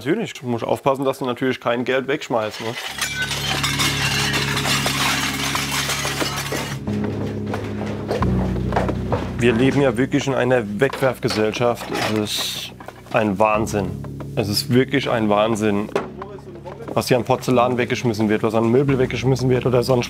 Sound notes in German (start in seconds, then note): 2.5 Klirren; 6.9 Nachdenkliche Musik